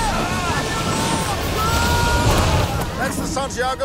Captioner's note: sailors yell